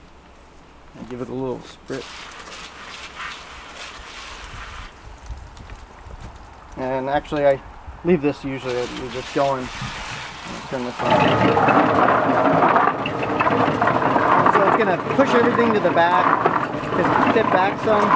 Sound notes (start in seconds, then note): 1.8 water spraying; 10.4 washer tumbling